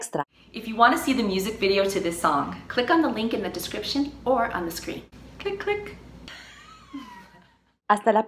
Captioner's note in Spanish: risa